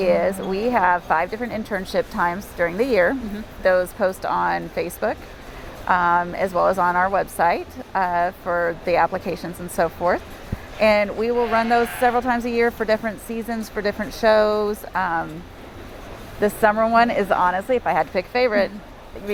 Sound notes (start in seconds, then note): 11.2 bleats